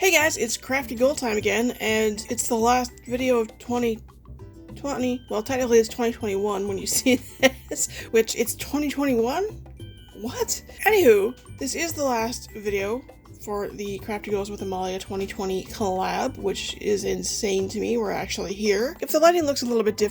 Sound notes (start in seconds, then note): 7.0 laughs